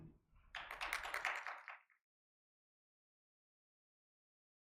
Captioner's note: audience applauding